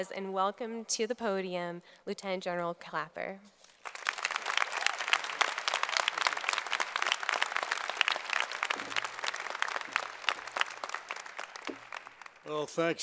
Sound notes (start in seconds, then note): 3.7 applause